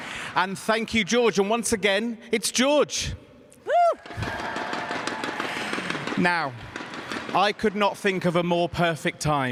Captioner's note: cheers and applause